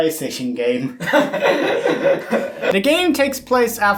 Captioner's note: both laughing